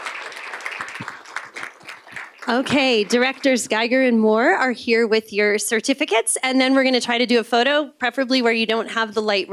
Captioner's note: applause